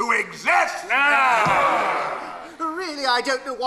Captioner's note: ghosts grumble